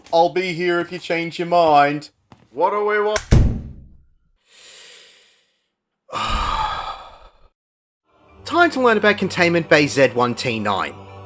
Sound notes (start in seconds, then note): 3.2 door closes; 4.4 slow inhale; 6.1 deep sigh